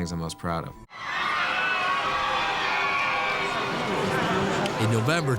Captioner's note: fans screaming